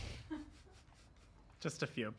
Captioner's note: laughter